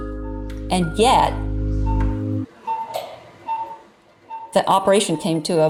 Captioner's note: machine beeping